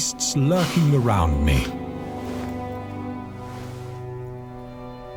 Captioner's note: Jacob sniffing